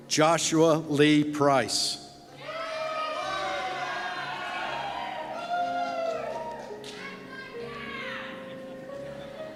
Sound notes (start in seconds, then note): 2.4 cheers